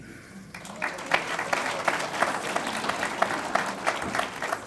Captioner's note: audience applauds